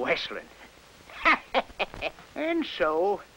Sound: chuckles

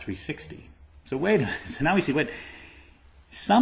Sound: laughter

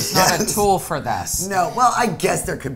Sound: laughing

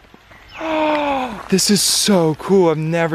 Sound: gasps

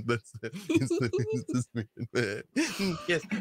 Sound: giggling

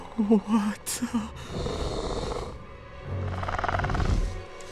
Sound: snarls

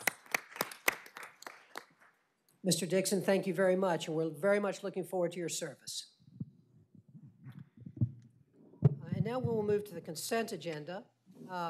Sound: applause

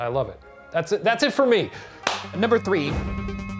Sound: clapping

